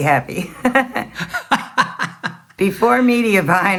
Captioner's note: both laughing